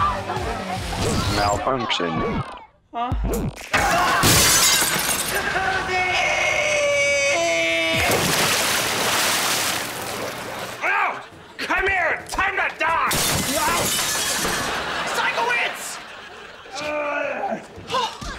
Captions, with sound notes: Malfunction. Huh? [screaming] Jacuzzi! Come here, time to die! Ow! Sikowitz! Oh, that hurt.